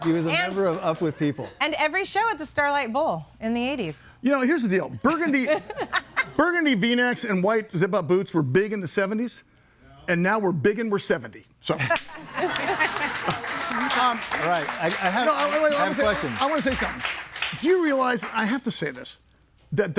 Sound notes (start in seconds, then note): 12.2 everybody laughing; 12.4 clapping